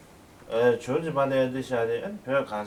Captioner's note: non-english speech